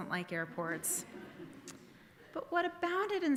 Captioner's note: audience laughing